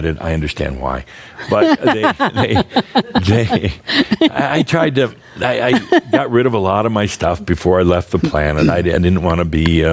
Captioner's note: laughs